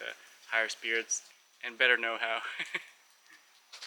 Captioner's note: laugh